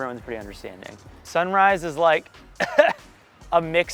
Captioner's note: laughing